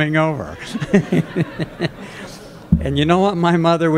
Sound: laughter

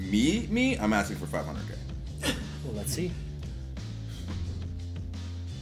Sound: laugh

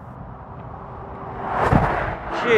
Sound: wind of truck passing next to me

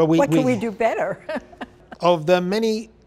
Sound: laughs

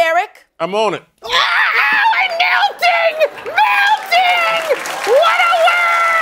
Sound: screaming

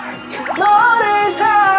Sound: here's ghost sound

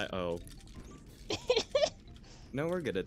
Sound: laughs

